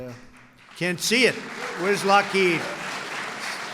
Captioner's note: applause